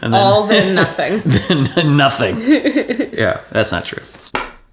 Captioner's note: laughs